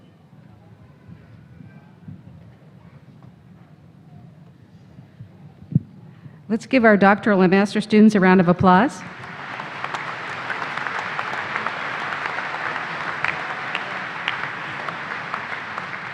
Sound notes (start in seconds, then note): 8.8 applause